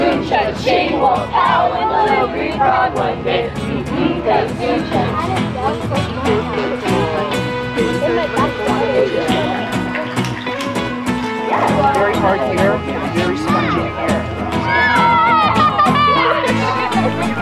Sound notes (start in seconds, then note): 5.0 general chatter; 5.0 guitar and horns; 9.9 fidget toy clacking; 14.2 campers cheering